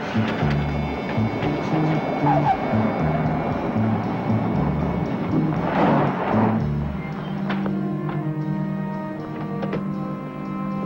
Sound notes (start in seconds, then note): 2.2 car squeaks and stops; 7.7 suspenseful music